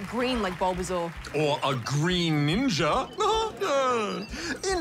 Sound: laughs

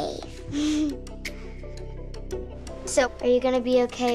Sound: laughs

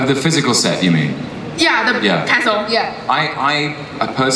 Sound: voiceover

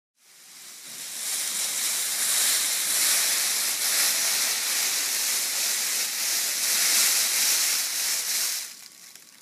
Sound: foil rustling

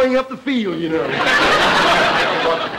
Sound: audience laughter

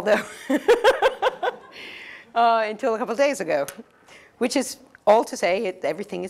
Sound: laugh

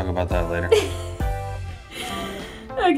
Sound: laughs

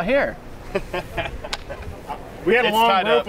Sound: chuckles

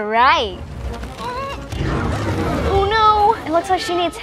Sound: Moana grunting

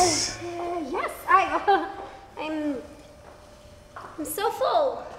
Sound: laughs

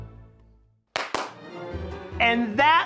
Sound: hands clapping

